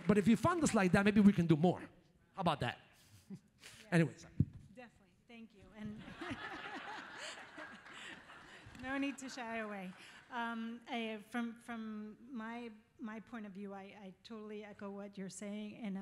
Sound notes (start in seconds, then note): 5.9 laughs; 6.0 audience laughs